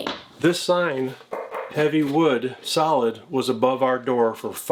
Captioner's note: knocks